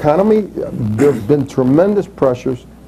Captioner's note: clears throat